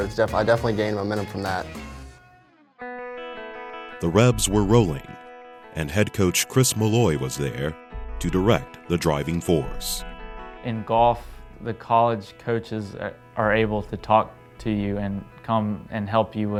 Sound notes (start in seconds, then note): 2.9 guitar music; 4.3 voiceover